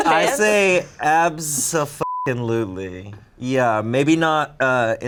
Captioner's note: beep